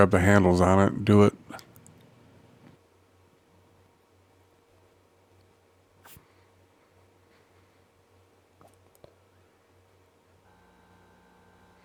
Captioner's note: silence